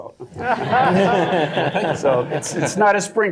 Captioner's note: laughter